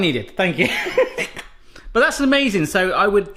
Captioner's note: laughing